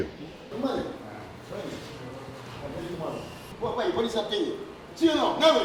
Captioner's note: speaking foreign language